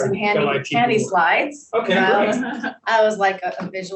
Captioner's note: panelists laughing